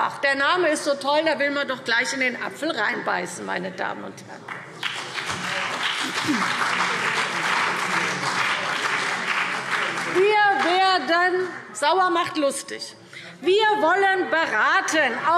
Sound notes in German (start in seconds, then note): 4.5 Beifall CDU und BÜNDNIS 90/DIE GRÜNEN